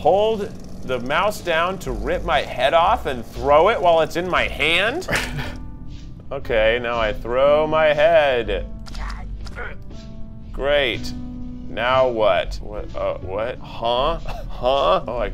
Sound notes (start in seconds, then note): 5.0 laughs; 12.9 stutters